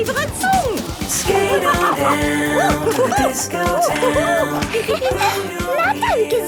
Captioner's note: laughing and exclaiming